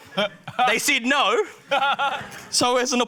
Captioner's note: guy laughs